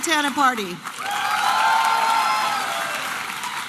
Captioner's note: applause and cheering